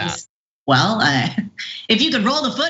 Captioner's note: laugh